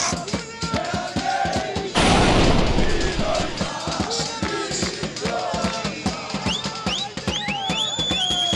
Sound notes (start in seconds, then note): 0.1 celebratory cheering and singing; 1.9 sound of explosions; 3.8 celebratory cheering and singing